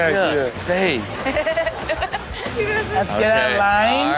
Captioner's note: Chanel laughs